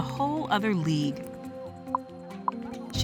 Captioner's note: beeps